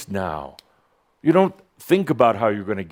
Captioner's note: snap!